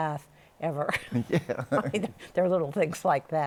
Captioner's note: chuckles